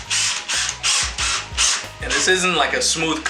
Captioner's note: drill whirring